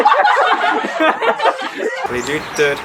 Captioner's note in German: alle lachen